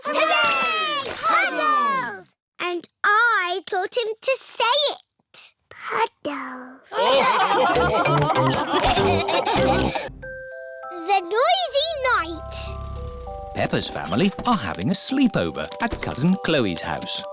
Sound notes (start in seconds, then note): 6.9 laughter